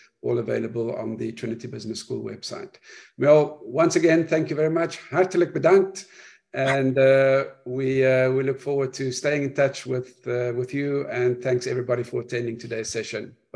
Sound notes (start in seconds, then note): 5.2 speaking foreign language